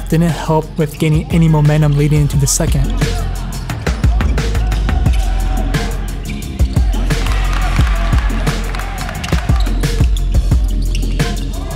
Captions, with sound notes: didn't help with getting any momentum leading into the second. (upbeat music) (shouting)